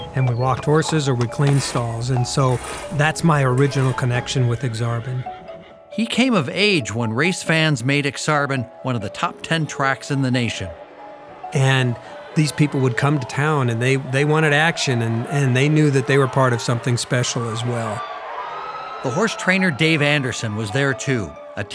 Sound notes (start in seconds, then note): 18.0 audience cheering; 18.0 bright music